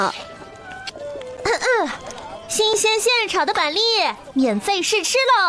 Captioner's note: ahem